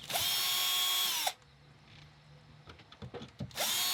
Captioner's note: drilling; drilling